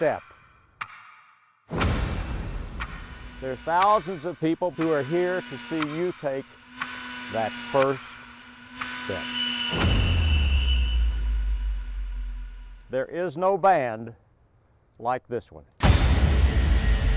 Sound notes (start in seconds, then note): 0.2 clock ticking; 9.8 whistle blowing